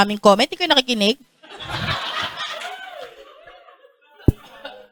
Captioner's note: laughter